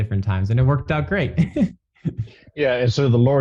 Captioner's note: laughs